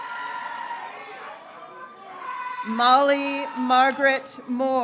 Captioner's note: graduates cheering